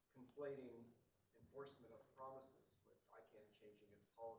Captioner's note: speaking off microphone